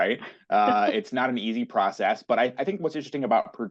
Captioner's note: laugh